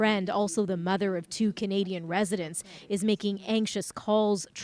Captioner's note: speaking alternate language